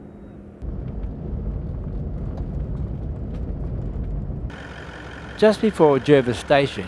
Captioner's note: vehicle sounds